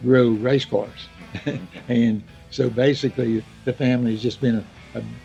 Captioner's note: laughs